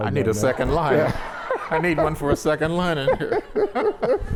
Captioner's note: laughter